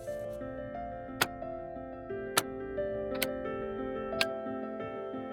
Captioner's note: buttons clicking